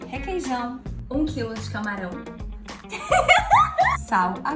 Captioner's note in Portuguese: risada